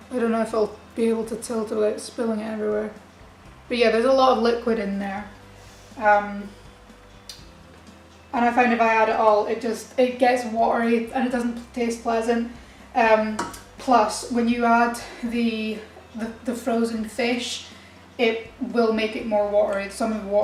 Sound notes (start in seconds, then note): none